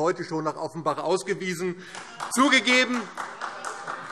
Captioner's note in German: Beifall